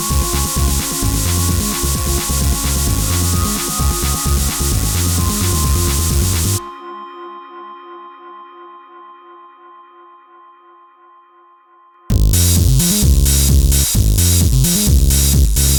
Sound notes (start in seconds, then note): 7.0 light droning fades; 12.1 electronic dance music